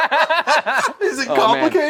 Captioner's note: laughter